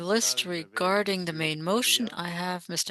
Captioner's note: speaking French